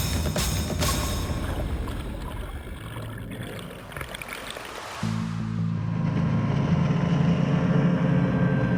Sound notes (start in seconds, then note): 0.0 dramatic Music; 4.1 waves crashing